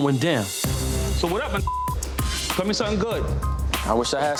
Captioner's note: beep